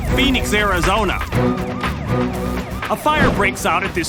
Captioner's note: sirens wailing